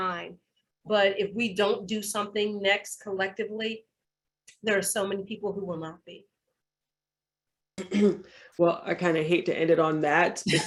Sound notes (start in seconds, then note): 6.2 clears throat